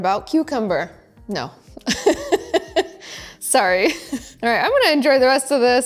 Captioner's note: laughing